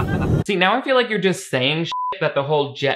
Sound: everyone laughs; beep

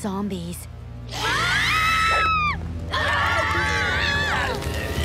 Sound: screaming

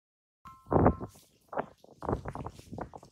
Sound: phone rings

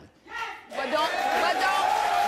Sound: audience cheers and claps

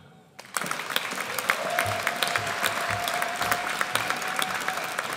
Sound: audience applauds

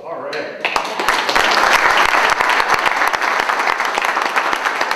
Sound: loud applause

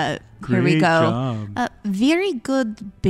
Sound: sarcastic

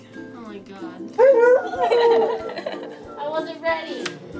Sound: dog howls

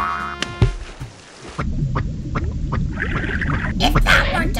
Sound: footsteps squelching

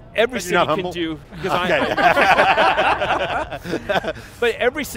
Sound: laughter

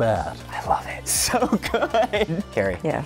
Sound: laughs

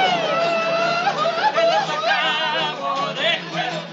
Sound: singing in spanish continues; hooting

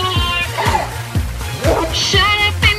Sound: gasps

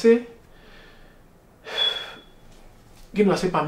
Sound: sigh

